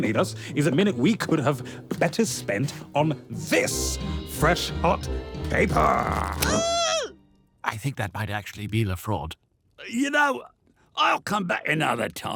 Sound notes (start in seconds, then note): 5.8 LeFraude squeals in pain